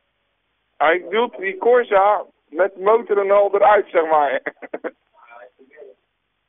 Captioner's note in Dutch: gelach